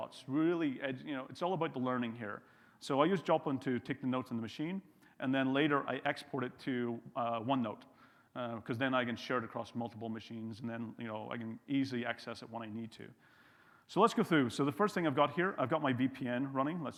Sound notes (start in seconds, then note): none